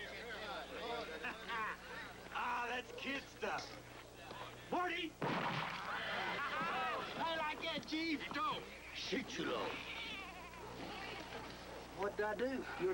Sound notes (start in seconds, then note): 5.2 gunshot; 8.7 speaking Sioux